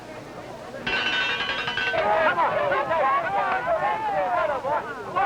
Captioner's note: bell ringing; crowd shouting